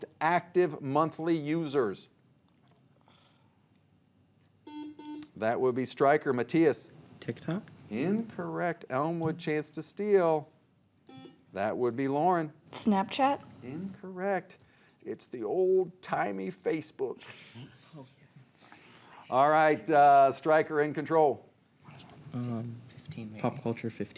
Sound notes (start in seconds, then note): 4.6 buzzer buzzing